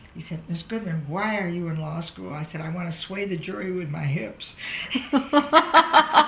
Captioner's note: laughs